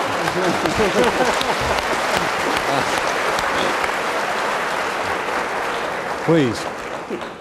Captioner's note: applause; laughter